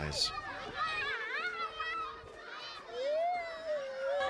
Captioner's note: children chatting